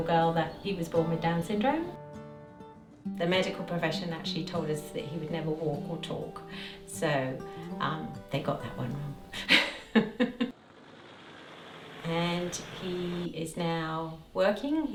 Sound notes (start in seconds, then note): 9.3 laughs